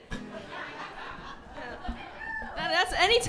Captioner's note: people laughing